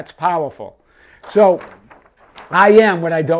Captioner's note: paper rustles